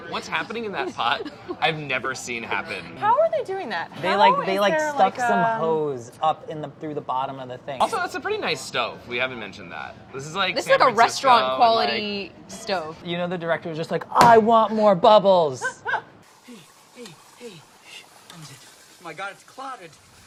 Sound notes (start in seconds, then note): 15.6 laughing